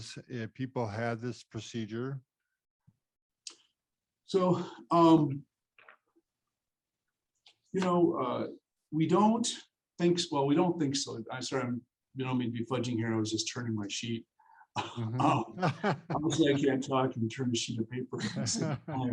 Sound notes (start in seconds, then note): 14.8 laughs